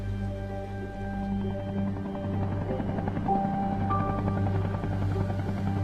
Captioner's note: helicopter engine